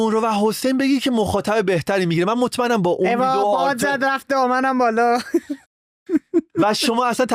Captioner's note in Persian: خنده